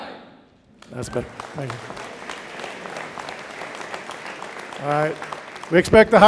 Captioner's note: audience applauding